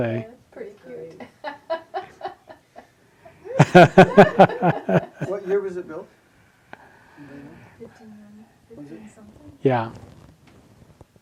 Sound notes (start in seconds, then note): 3.5 audience laughing